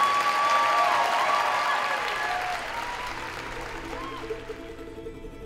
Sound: applause

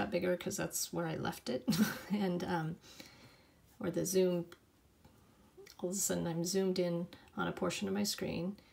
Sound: laughter

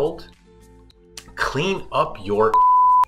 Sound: beep

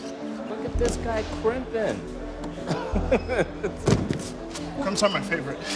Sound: laughs

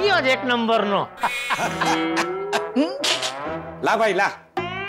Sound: laughs

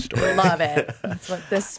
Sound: Jon laughs

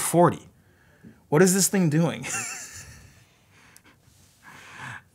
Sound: laughs

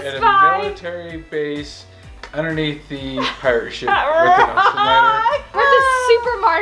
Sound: laughter

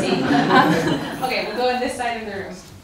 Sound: audience laughing

